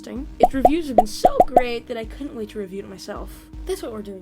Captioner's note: in a sarcastic tone